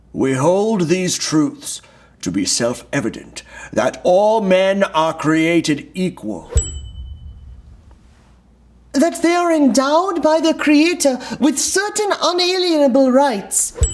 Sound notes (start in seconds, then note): 6.5 bell dinging; 13.8 bell dinging